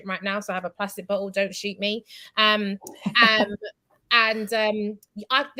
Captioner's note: laughs